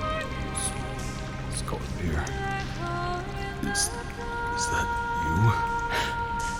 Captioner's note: trembling, weak